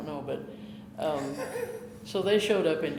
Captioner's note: chuckling